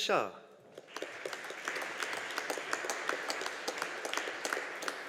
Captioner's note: audience applauding